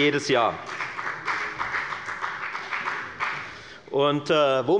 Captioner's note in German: Beifall bei der FDP